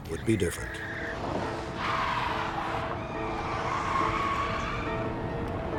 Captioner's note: tires screeching